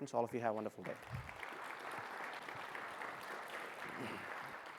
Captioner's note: attendees applauding